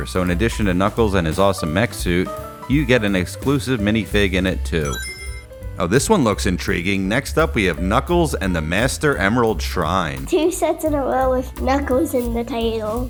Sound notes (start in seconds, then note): 4.8 Sonic Ring Chime